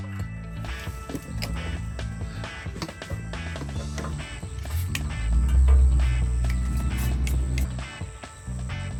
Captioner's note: haha